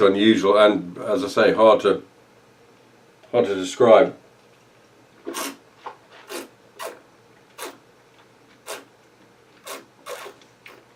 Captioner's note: slurping